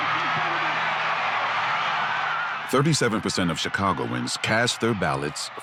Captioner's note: crowd cheering